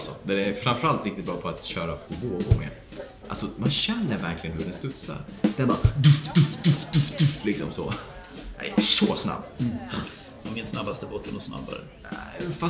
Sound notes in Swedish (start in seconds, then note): 5.9 makes bounce noices